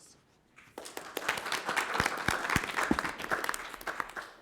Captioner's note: crowd clapping